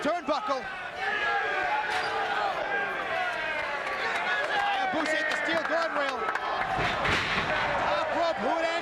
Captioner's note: applause